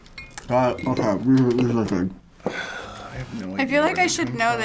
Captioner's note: sighs